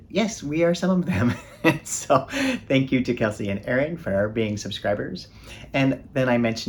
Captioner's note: chuckles